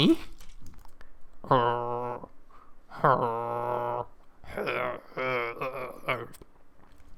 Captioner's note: weird Zombie Villager Noises